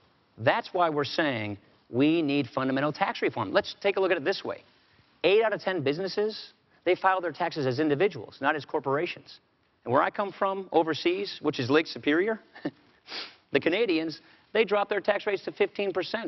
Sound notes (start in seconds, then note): 12.5 chuckles